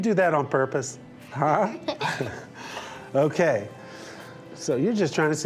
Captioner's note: laughs